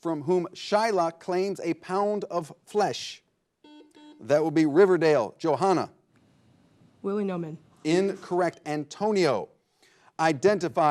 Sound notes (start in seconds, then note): 3.6 buzzer blares